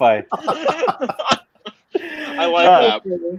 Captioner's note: laughing